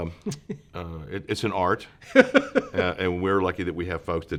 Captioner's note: laughs